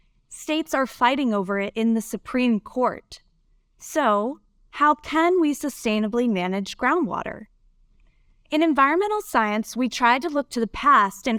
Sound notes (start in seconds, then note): none